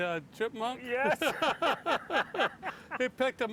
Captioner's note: laughter